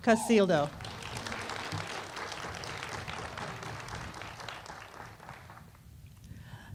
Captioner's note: applause